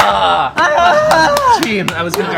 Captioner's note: cries of triumphant exasperation